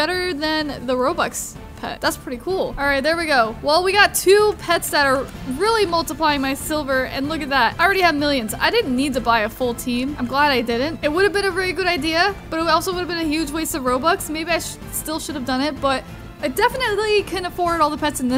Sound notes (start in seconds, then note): none